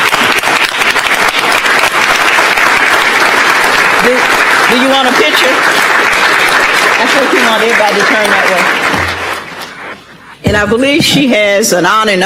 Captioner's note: applause